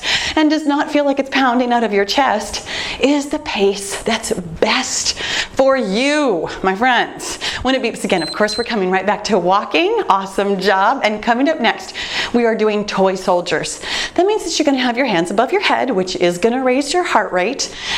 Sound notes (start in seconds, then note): 8.0 timer beeps